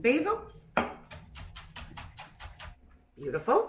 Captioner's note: chopping sounds